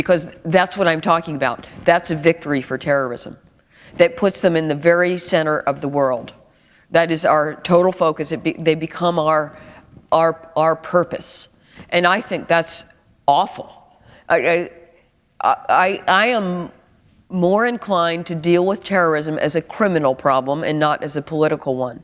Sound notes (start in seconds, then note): none